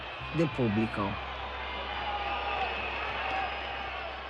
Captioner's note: jeering